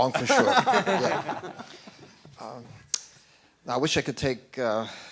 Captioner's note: laughing